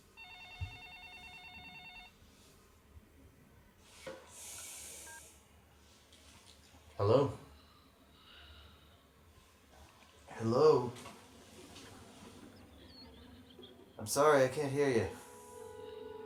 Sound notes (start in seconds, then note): 0.1 phone ringing; 7.5 breathing over phone